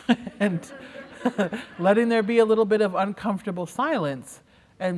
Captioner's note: laughter